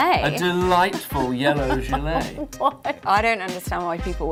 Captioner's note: laughs